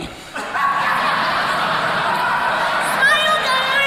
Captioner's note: crowd laughs